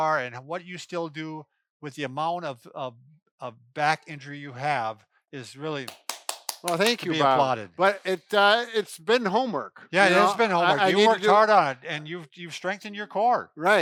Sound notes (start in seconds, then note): 5.8 clapping